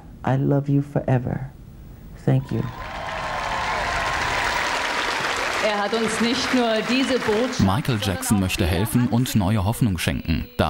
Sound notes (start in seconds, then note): 2.6 applause